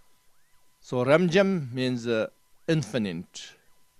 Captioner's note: tibetan